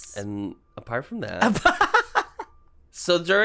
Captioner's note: laughs